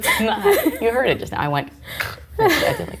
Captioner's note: snorts